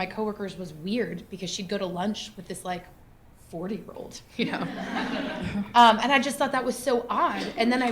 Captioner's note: laughter